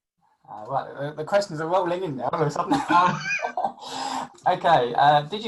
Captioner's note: laughs